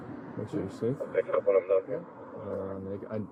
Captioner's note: radio chatter